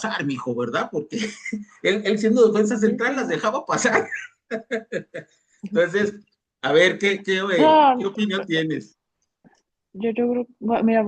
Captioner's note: risas